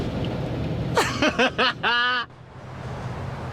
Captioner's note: laughing